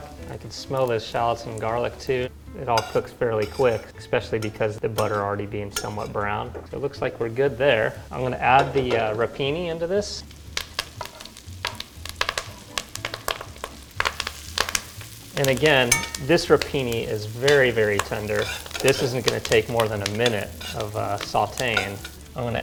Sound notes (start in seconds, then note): 10.5 pan sizzles